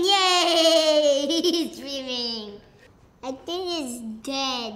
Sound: laughs

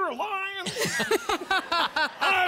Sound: laughter

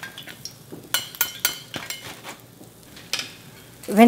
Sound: clanking

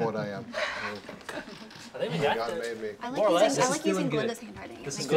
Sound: group chattering

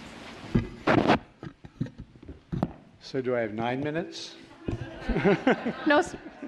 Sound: laughter

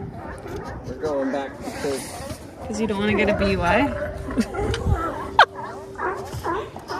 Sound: haha

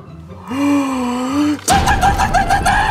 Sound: gasps; hysterically laughing

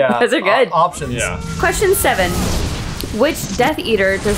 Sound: explosion noise

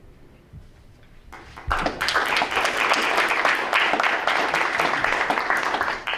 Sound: audience members clapping

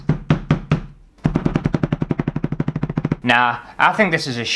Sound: fast Hammer Sounds

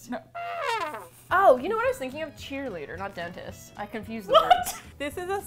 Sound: deflating trumpet; laughs in confusion

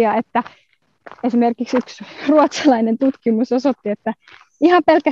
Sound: laughs

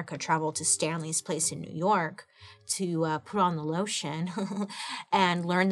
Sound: laughs

